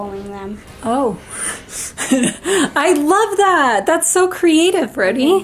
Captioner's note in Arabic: يضحك